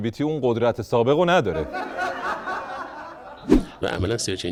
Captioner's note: laughter